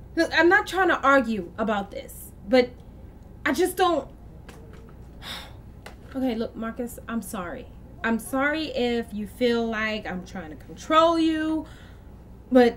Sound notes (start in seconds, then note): 5.2 sighs